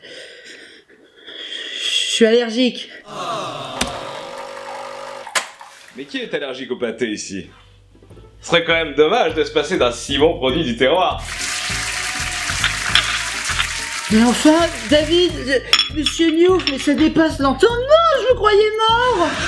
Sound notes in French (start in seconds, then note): 2.8 Voix de sitcoms exprimant la déception; 11.4 Applaudissements